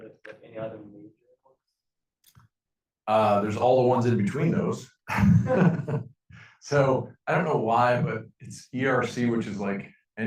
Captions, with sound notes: There's all the ones in between those. (laughing) So I don't know why, but it's ERC, which is like